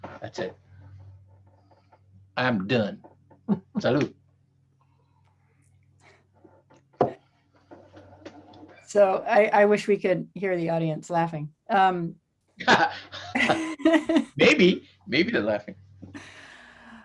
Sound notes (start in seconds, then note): 12.6 both laughing